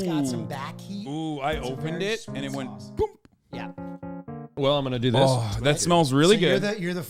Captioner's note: poomp!